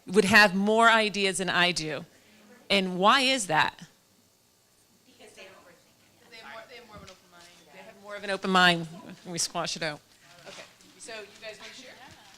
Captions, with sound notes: would have more ideas than I do, and why is that? (chatter) They have more of an open-mind and we squash it out, okay, so you guys wanna share?